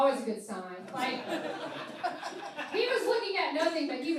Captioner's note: laughing